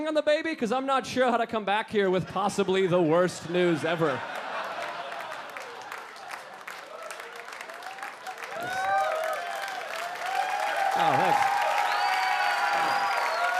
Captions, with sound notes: 'Cause I'm not sure how to come back here with possibly the worst news ever." (audience laughing and clapping) (audience cheering and clapping)